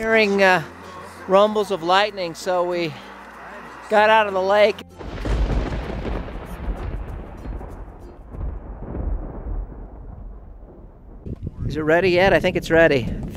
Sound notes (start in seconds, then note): 5.0 loud thunder clap